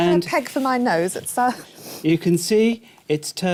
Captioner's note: sniffing